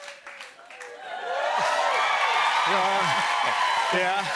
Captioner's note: cheers and applause